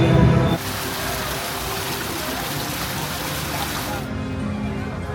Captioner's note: fountain splashes